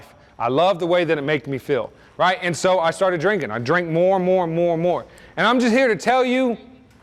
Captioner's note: none